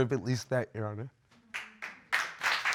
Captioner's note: audience applauds